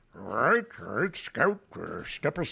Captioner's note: imitating gregory peck